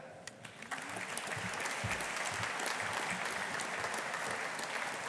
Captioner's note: audience applauding